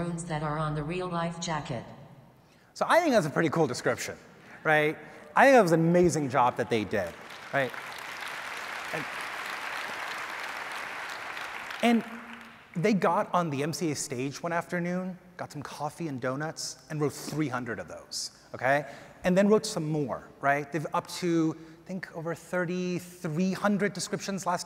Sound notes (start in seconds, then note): 6.3 audience applause